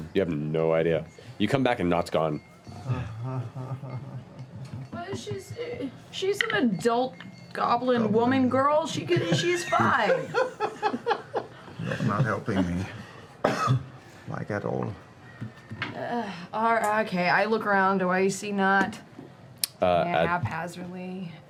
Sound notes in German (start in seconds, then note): 2.7 panisches Murmeln